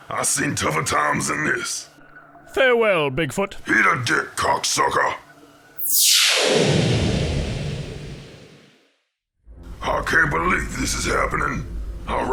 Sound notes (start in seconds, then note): 5.9 ship swooshes